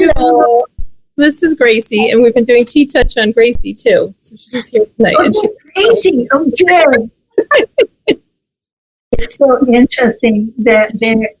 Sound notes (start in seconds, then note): 7.3 laughs